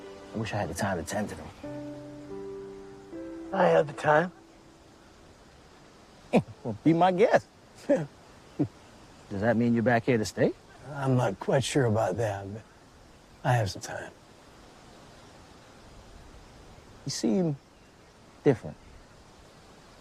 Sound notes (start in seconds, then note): 7.8 chuckles